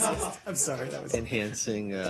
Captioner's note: laughter